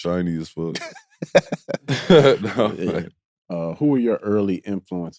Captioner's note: both laughing